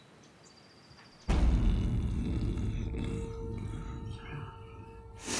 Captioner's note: suddenly: SNORING!!!